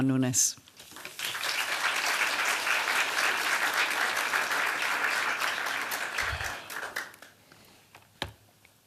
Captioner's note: applause